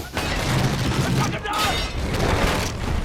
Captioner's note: man yelling in arabic